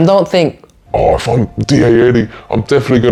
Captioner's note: speaking with a deep voice